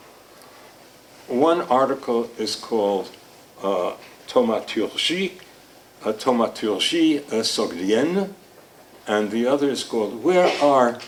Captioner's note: speaking foreign language